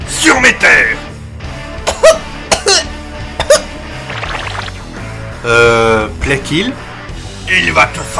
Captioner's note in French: Tousse tousse